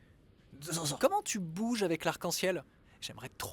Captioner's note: disgust